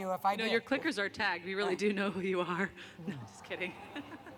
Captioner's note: laughter